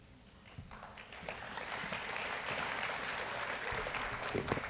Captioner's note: audience applauds